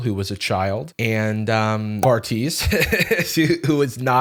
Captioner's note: laughs